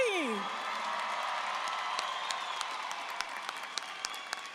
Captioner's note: audience cheering